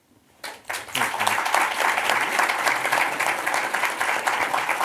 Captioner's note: audience applauds